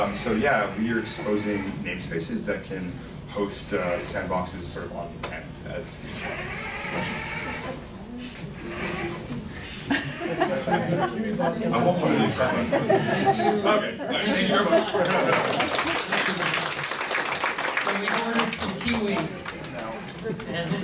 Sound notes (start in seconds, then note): 6.1 Kiwibot grinding; 9.7 laughing; 14.8 clapping